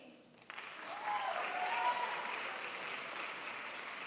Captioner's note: crowd applauds